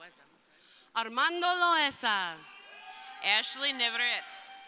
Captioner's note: crowd cheering